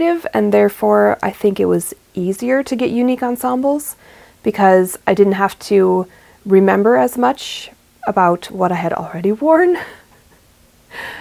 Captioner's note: laughs